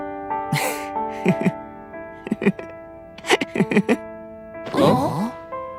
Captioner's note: giggles